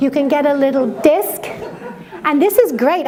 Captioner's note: laughter